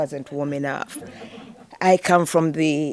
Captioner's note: audience laughing